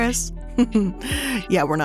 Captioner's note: chuckles